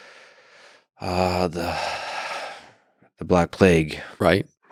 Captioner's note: sighs